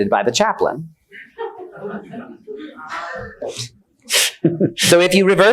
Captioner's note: attendees laughing